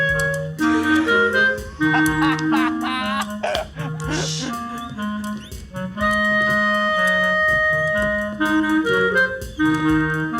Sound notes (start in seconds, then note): 2.2 laughs